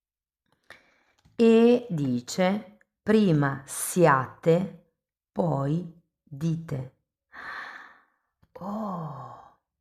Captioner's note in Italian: sospiri